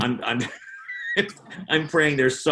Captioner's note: laughing